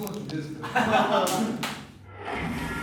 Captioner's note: laughing